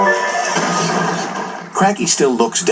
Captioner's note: thud